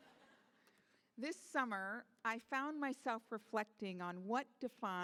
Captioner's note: laughter